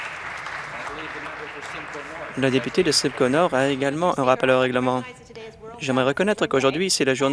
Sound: applause

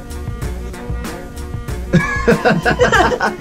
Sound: laughter

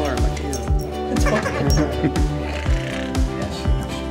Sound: laughter

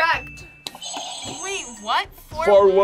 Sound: buzzer rings

